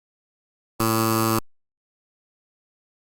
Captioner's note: sonido de timbre incorrecto